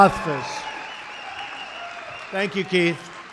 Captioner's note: applause